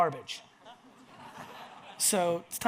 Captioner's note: audience laughs